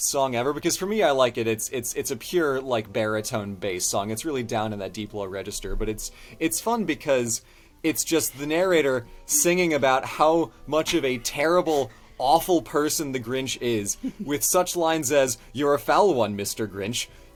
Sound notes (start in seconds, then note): none